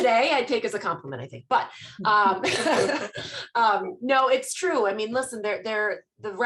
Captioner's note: laughter